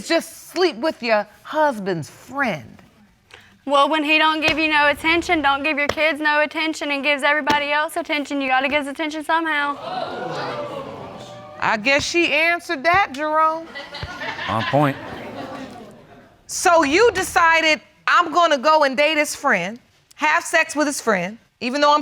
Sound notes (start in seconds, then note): 9.7 audience exclaiming